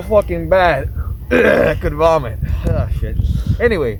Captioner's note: vomit sound